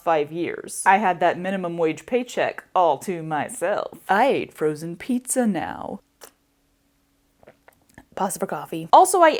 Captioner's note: slurp